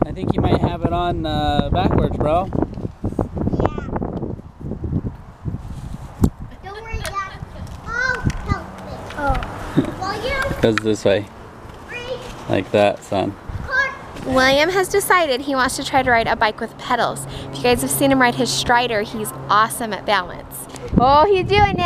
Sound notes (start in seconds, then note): 6.7 yelling